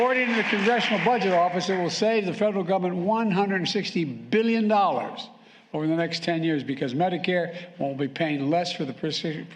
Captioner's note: applause